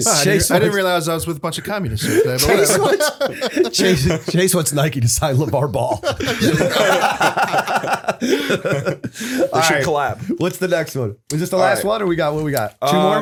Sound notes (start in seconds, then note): 2.0 laughter; 5.8 laughter